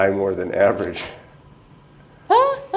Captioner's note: laughter